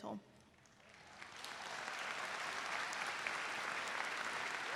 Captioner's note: audience cheering